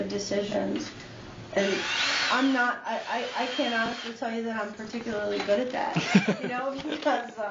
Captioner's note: drill